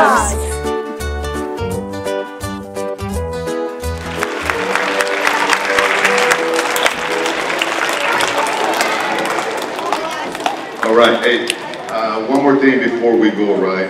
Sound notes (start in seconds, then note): 3.9 audience applauding